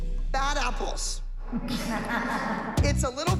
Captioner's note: laughter